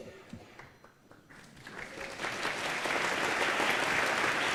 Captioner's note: applause